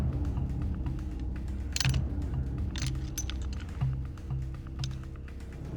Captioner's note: knife clicking